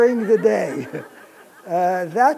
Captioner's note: laughter